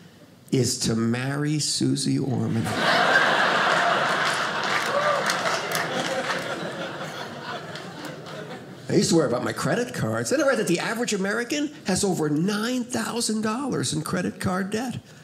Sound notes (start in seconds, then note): 2.6 audience laughing